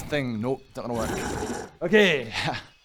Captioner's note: growl